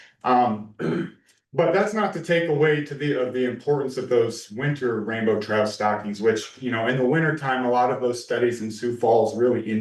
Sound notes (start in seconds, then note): 0.3 clears throat